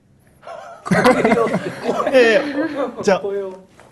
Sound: laughter

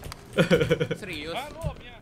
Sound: laugh

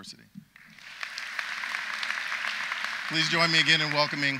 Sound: audience applauds

